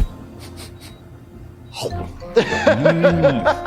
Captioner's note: sniffing; laughing